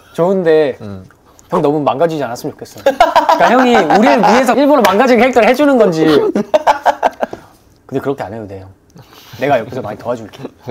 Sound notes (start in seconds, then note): 2.9 laughter that hits deep